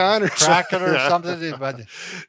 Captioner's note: laughs